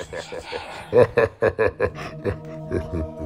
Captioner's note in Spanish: Risa maligna